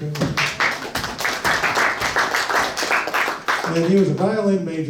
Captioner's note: audience applauds